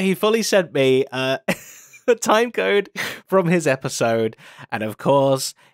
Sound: laughs

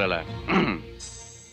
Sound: clears throat

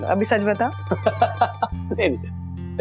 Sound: laughs

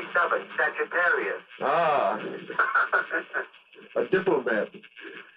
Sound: chuckles

